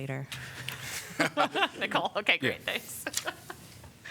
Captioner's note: laughter